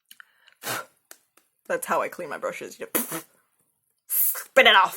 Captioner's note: blows